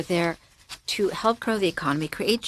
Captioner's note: speaking French